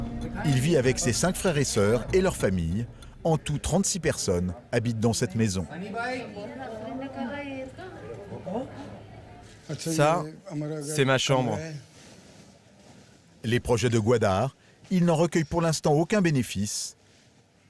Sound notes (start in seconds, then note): 5.7 family chattering; 9.5 Ghani speaking foreign language